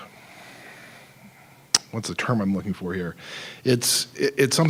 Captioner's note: sighing